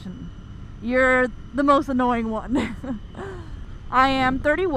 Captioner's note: laughs